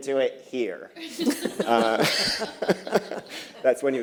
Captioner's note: laughter